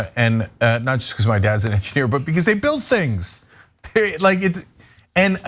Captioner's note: laugh